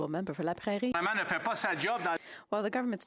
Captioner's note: speaking French